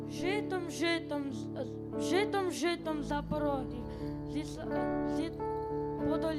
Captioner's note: child speaking foreign language